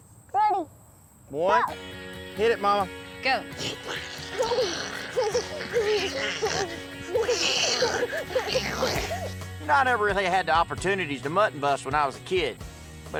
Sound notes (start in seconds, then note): 3.6 giggling; 4.3 imitating sheep